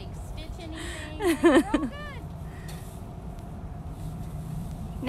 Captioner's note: laughter